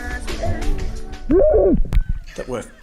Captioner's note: screams